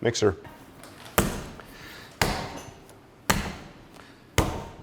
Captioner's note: dough thudding